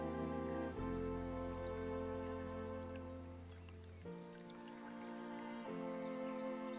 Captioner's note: gentle music; wine sloshing